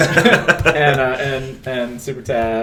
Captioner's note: laughter